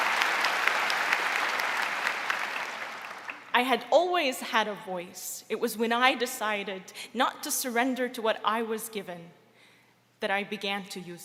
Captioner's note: applause